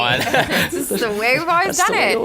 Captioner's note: laughter